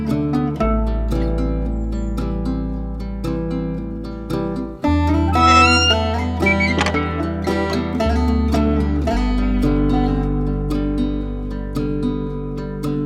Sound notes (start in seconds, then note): 2.0 birds chirping; 2.0 howling sounds